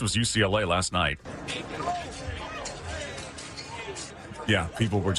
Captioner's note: people yelling